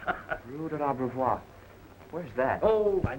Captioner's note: laughs; Pierrot speaks in foreign language